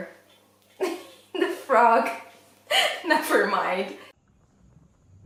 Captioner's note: laughs